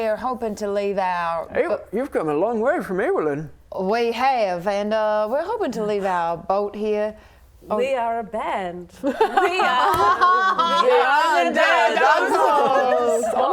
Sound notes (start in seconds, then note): 9.1 laughing